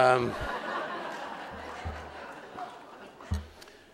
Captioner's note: laughter